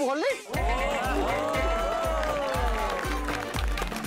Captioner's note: cheering and applauding